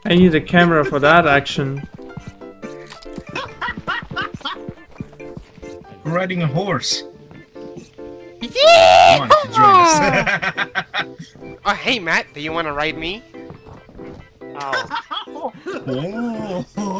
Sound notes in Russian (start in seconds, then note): 8.6 Ковбойский возглас